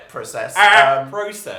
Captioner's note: alien noise